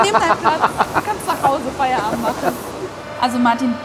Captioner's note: laughing